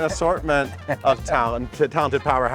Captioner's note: chuckles